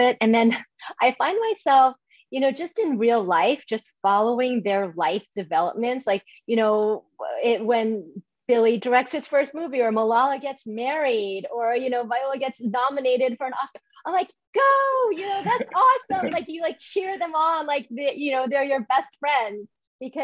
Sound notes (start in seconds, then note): 15.2 laughs